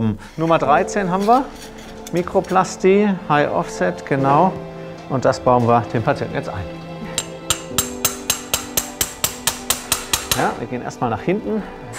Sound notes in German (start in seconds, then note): 7.5 Lautes Klopfen